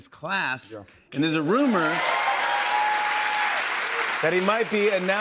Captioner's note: cheers and applause